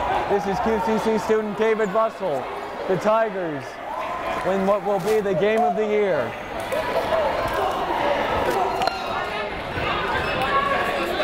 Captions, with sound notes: This is QCC student David Russell. The Tigers win what will be the game of the year. (crowd murmuring)